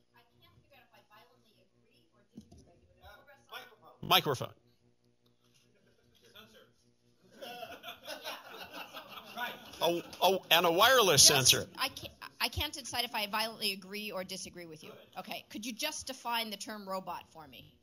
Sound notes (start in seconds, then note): 7.2 laughter